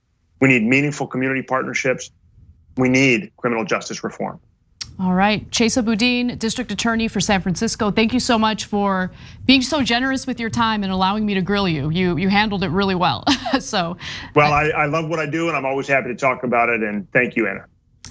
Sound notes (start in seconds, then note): 13.2 laugh